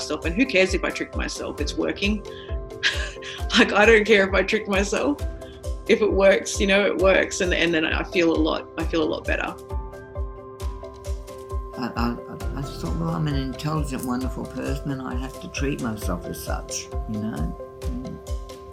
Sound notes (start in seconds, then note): 2.8 laughs